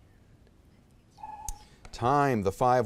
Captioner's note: timer buzzes